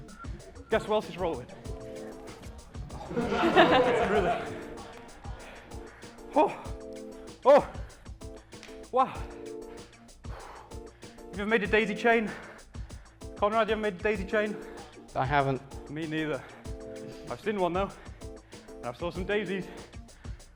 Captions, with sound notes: Guess who else is rolling! (laughter) Yours truly. (out of breath noises) Have you ever made a daisy chain? Conrad, you ever made a daisy chain? I haven't. Me neither. I've seen one, though. And I saw some daisies!